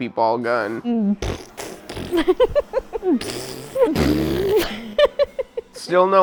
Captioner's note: fart noises and laughing